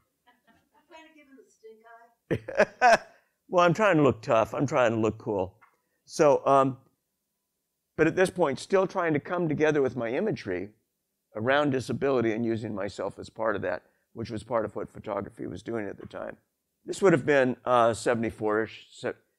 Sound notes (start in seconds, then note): 2.3 laughs